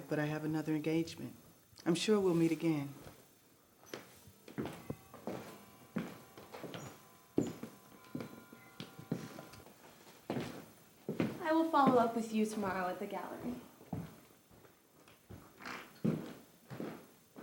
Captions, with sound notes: but I have another engagement. I'm sure we'll meet again. [footsteps] [bell chimes] [footsteps] I will follow up with you tomorrow at the gallery. [footsteps]